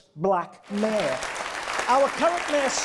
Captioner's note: audience applause